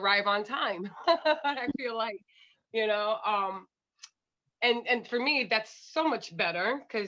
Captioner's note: laughter